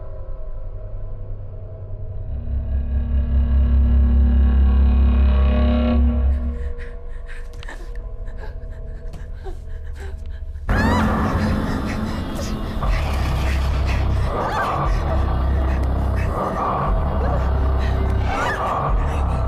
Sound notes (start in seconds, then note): 2.4 Heather gasping; 2.4 soft intense music; 10.5 sudden ominous music; 10.7 Heather shrieking; 13.4 Heather gasping fearfully; 13.4 monster rasping